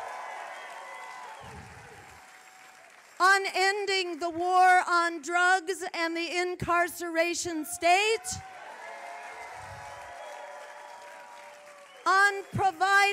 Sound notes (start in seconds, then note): 0.0 applause; 3.3 applause; 12.4 applause